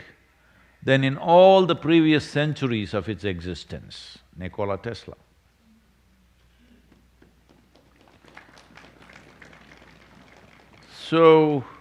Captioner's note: applause